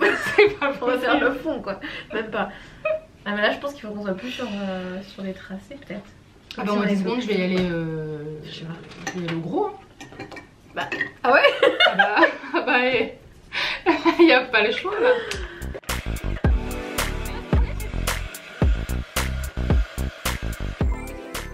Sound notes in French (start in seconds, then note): 11.4 rires